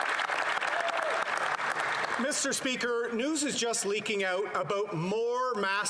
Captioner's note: applause